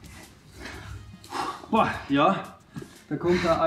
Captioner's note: pants